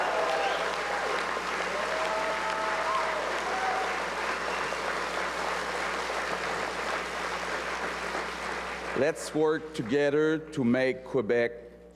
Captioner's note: cheers and applause